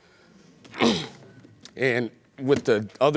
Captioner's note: clears throat